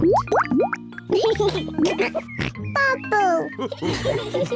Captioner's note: laughs and snorts; all laugh